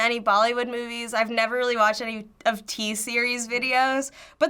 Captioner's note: none